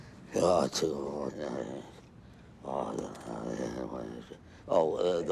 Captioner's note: Summers muttering